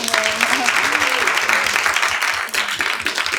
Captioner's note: applause